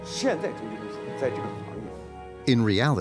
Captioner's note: speaking in foreign language